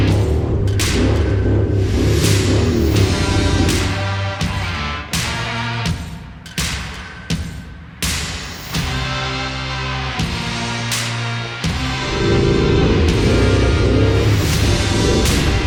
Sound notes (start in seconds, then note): 12.3 engine revs